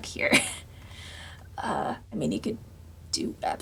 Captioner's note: laughs